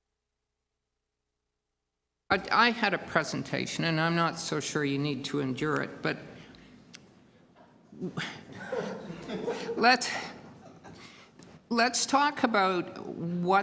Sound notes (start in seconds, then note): 8.5 laughter